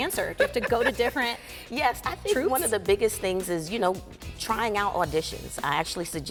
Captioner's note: laughs